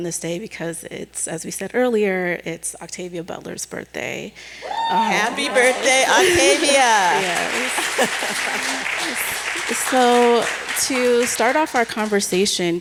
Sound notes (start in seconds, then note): 4.6 cheering; 7.3 applause